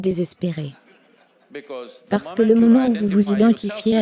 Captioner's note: audience laughs